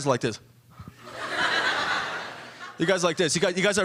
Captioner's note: audience laughing